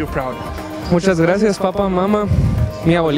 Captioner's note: speaking spanish